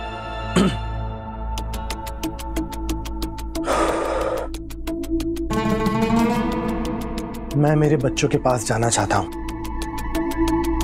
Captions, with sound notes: [clearing throat] [sighing] I want to go to my children.